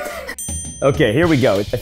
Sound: bell dings

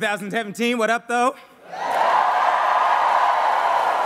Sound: cheering

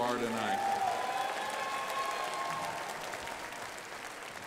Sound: crowd applauding

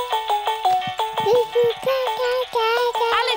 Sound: mobile playing loud music; cooing

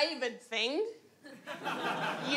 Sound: laughs

